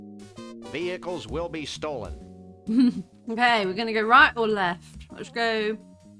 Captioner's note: laughing